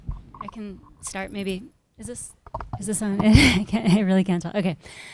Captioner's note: laughs